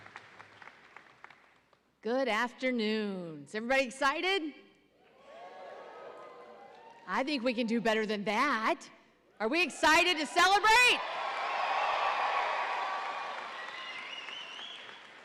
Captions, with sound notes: - Good afternoon. Is everybody excited? (audience cheering) I think we can do better than that. Are we excited to celebrate? (audience cheering louder)